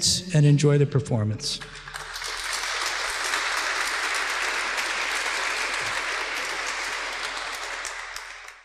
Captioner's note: applause